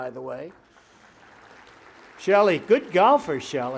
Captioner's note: applause